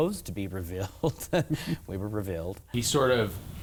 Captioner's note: laughing